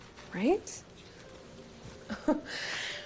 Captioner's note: Andie chuckles